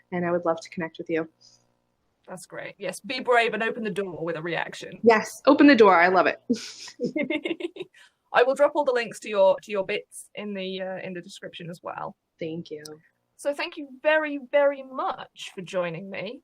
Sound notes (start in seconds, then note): 6.6 laughs